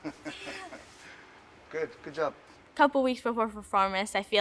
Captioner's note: laughs